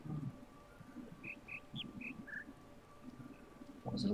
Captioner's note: bird chirps five notes